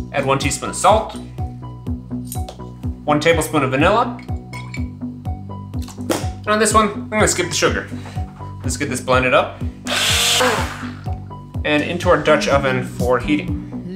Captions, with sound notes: Add one teaspoon of salt. One tablespoon of vanilla. And on this one, I'm going to skip the sugar. Let's get this blended up. (blender whirs) And into our Dutch oven for heating.